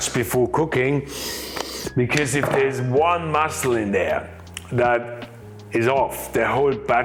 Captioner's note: sniffs